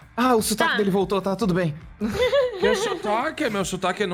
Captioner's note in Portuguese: risadas